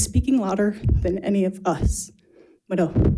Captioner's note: speaks in foreign language